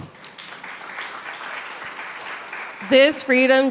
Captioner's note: audience clapping